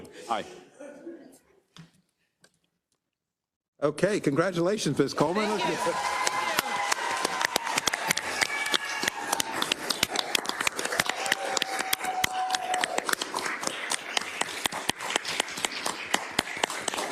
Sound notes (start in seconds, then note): 5.4 applause